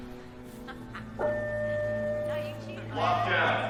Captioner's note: PA chiming